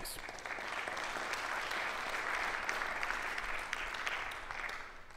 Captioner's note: audience applauds